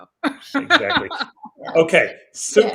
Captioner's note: laughs